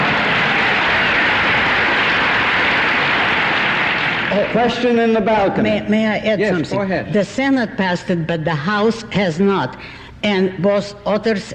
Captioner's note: laughter, applause